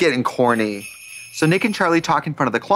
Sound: sleigh bells jingling

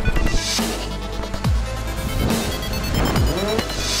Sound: crash; rotors failing; crash

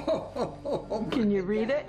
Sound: laughs

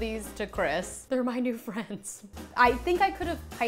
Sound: laughing

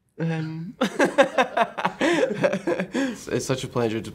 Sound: both laughing

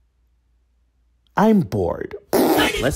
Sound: lip-trilling

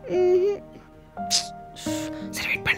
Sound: clicks tongue

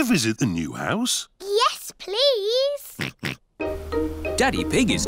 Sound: oinks

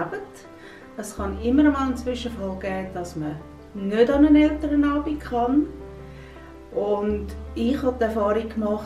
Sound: woman speak Swiss German

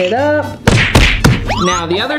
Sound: smack sound effect

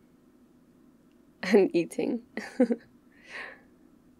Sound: laughs

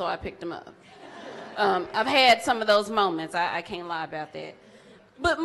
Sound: audience laughs

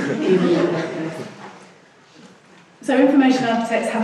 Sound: laughing

